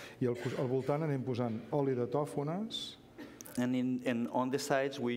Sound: speaking catalan

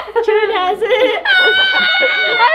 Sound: everyone laughs

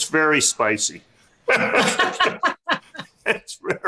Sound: laughs

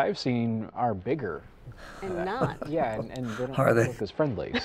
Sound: chuckling

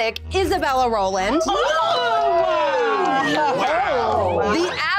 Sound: group cheering

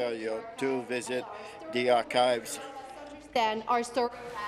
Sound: speaking in french

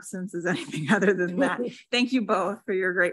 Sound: laughs

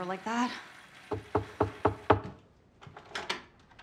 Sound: knocks

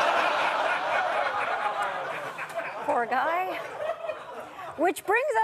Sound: audience laughter

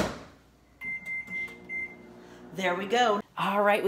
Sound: microwave Sound

